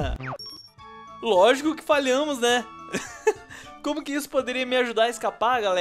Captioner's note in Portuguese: Risos